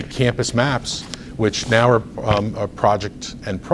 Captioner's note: rustles papers